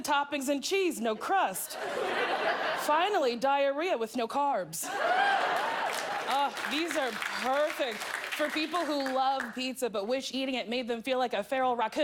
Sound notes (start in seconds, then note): 1.6 laughter; 4.9 cheers